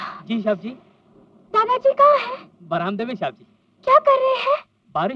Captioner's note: none